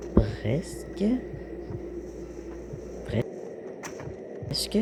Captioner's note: cold noises